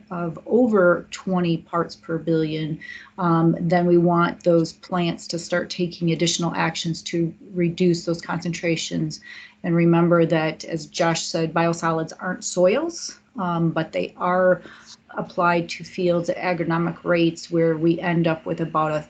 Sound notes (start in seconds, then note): none